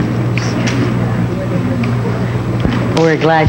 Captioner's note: crowd chattering